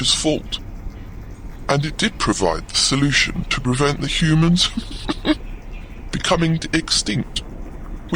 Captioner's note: laughs